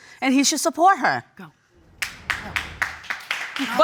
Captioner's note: audience clapping